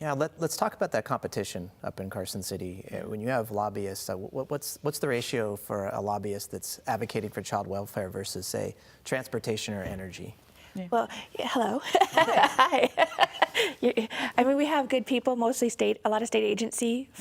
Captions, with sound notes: -Yes, let's talk about that competition up in Carson City. When you have lobbyists, what's the ratio for a lobbyist that's advocating for child welfare versus transportation or energy? -Well, hello. (laughter) -We have good people, mostly a lot of state